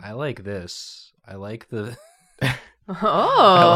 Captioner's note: laughs